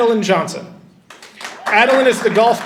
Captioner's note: audience applauding and cheering